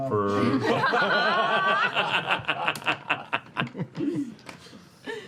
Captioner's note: laughter